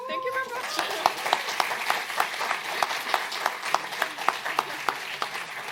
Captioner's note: applause